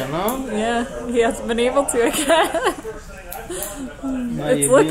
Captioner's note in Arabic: يضحك